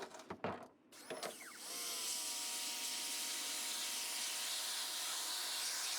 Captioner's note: pressure washer whirring